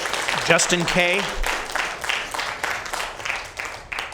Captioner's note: applause